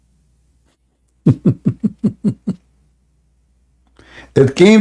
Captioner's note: Ketawa